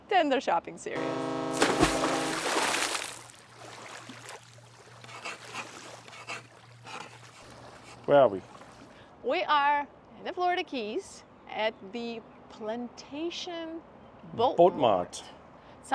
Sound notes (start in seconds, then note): 0.9 boat horn blasts; 5.0 chalk scrapes